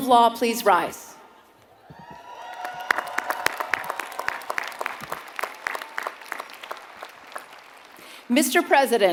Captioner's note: applause